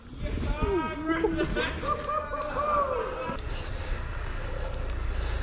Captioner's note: laughing and cheering